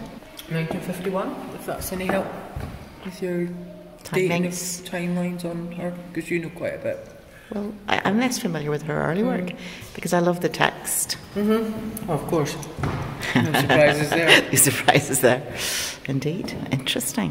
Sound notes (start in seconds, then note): 13.2 laughs